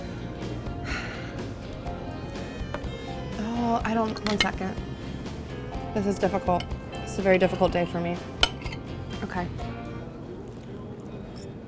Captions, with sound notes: (sighs) (moans) Oh, I don't, one second. This is difficult. This is a very difficult day for me. Okay.